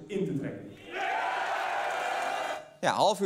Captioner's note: cheering